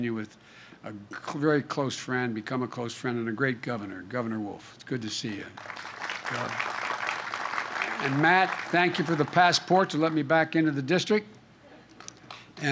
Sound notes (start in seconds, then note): 5.3 applause; 11.4 laughter